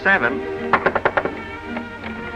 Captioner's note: knocks on door